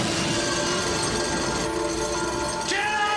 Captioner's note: sparks crackle; chain rattles